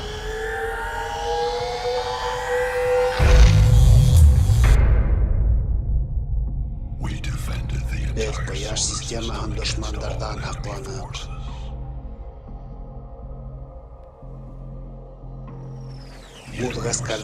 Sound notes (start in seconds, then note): 3.4 electricity crackling; 12.4 dramatic music